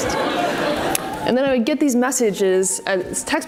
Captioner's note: audience laughs